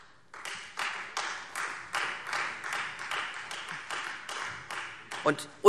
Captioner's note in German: Beifall Freie Demokraten